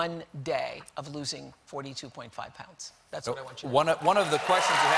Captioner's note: applause